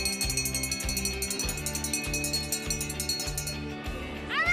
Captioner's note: bell ringing